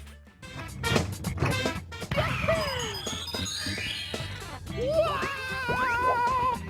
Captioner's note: Super Mario 64 sounds